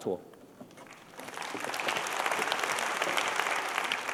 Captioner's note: applause